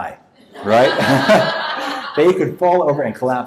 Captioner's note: audience laughs